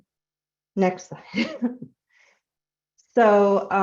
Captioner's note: chuckling